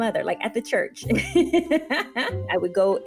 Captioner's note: chuckling